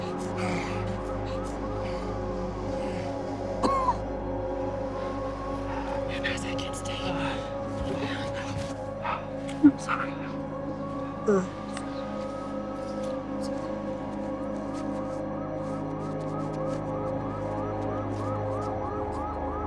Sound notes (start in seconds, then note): 0.2 siren wailing in distance; 3.5 coughs; 6.2 whispers; 11.6 grunts; 13.2 siren continues wailing